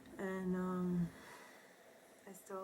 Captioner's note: sighs